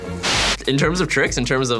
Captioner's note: white noise